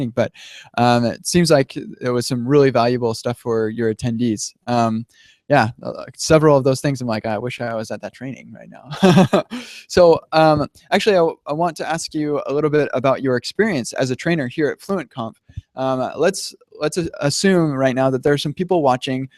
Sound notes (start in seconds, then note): 8.9 laughs